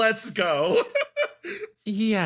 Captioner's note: laugh